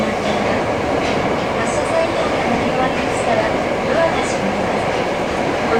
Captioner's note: train